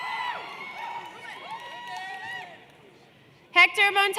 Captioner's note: cheers and Applause